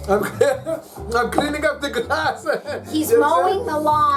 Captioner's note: laughing